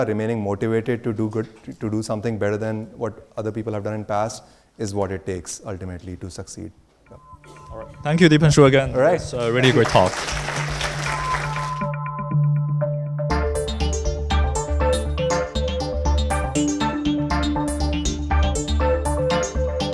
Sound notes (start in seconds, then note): 10.1 audience applauds; 11.6 futuristic synth music